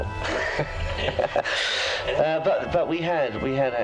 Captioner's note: laughs